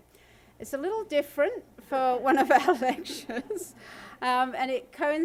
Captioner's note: laughs